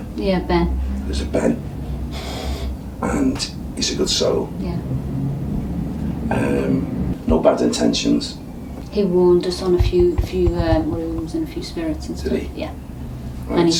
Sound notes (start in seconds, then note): none